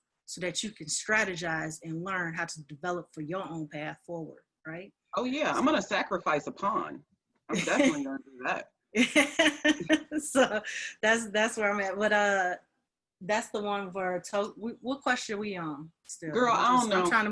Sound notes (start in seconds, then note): 9.2 laughing